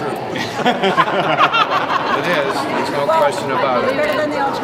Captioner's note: laughs